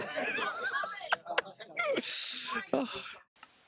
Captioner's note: wheeze-laughs